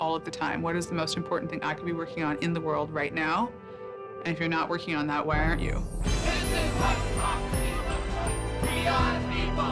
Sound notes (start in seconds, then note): 6.2 protestors chanting